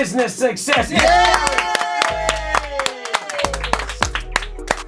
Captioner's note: everyone clapping